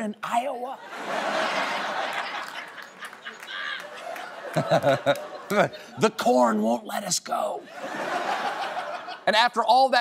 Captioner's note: laughter